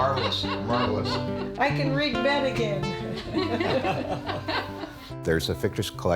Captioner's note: laughter